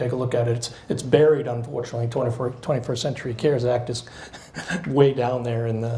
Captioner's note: laughs